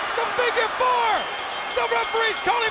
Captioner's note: bell ringing